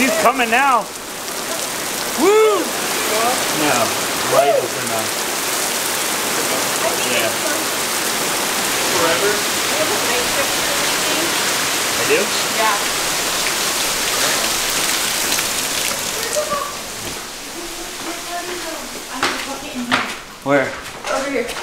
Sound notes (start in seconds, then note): 2.7 loud rainfall